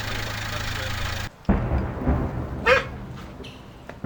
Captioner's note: sound of artillery